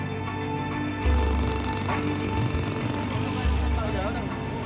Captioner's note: jackhammering Continues